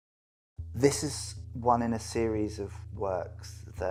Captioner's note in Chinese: 英语